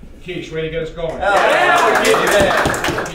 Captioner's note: cheers